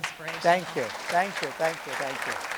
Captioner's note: attendees applauding